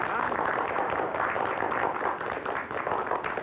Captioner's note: applause